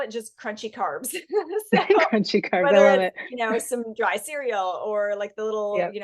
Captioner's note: laughing